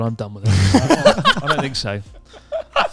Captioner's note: all laughing loudly